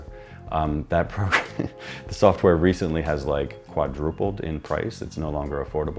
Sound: chuckles

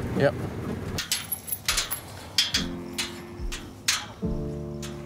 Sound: gate rattling

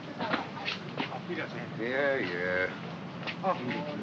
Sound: man bids farewell in German

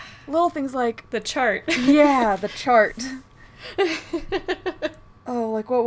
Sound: laughing

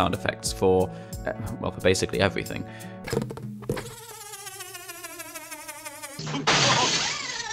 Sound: A deflating balloon makes a high-pitched whirring noise; the same noise now pitched up and repurposed for a spring

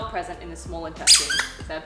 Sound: squeaks

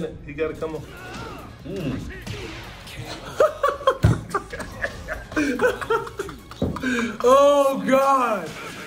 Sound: laugh

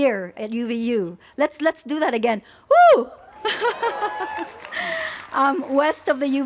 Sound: cheers

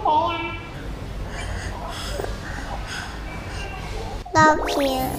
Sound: gasping from nervousness

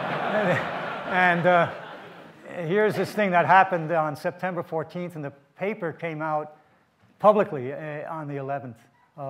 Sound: audience laughs

